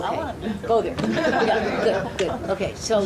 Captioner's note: audience laughing